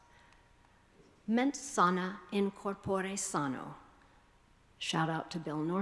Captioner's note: speaking foreign language